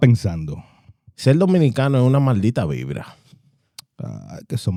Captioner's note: speaking In Foreign Language